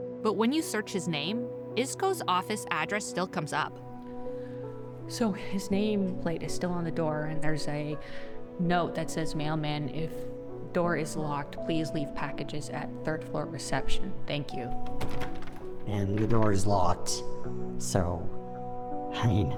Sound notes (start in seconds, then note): 14.6 rattling door